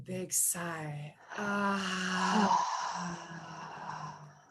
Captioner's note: sighs